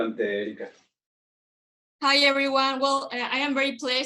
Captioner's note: speaking Spanish